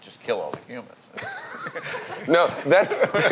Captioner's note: laugh